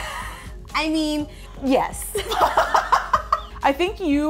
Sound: laughing

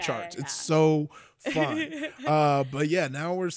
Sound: giggles

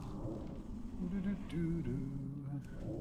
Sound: humming

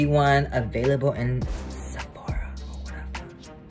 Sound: whispering

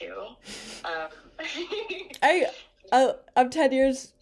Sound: laughs

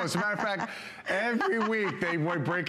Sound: laughter

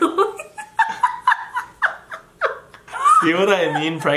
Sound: laughing

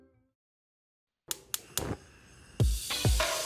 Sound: burner lighting; upbeat music

